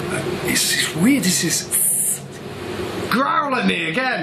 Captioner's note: hissing